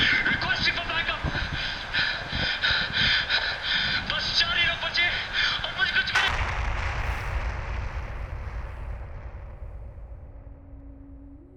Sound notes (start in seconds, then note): 6.2 bomb Explosion shatters the radio; 11.2 solemn Music